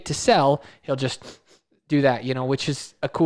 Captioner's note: sniffs